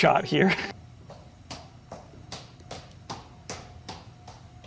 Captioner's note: footsteps tapping